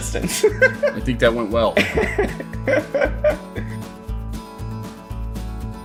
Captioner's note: laughter